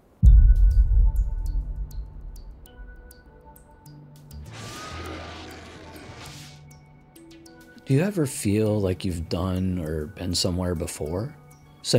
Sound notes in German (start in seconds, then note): 0.2 ominöse Musik; 4.4 Lichtstrahl zoomt